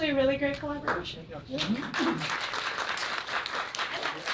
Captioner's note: applause